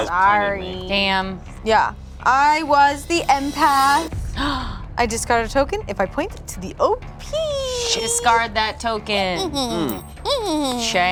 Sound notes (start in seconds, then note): 4.5 gasps; 9.4 laughs manically